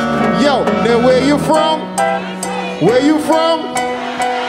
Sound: audience shouting

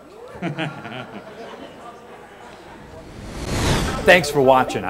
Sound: chuckling

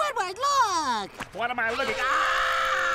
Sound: screaming

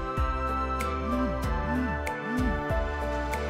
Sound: phone beeps

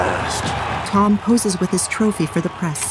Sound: crowd cheering

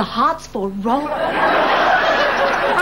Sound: audience laughing

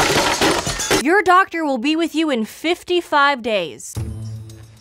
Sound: window breaking; voiceover; intense music

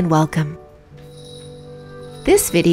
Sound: jingling

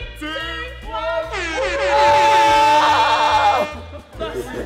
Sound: air horn blowing

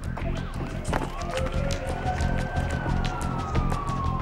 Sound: sirens

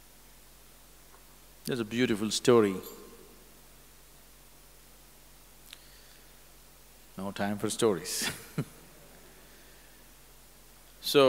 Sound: laughs

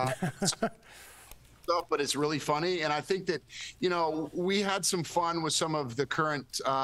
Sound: laughter

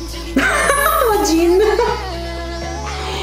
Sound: laughs

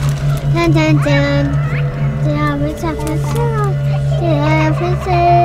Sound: children chattering

